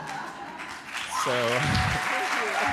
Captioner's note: applause